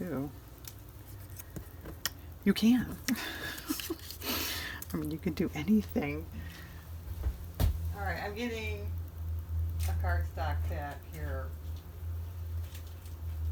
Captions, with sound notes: you can (laughs), i mean you can do anything all right i'm getting a card stock pack here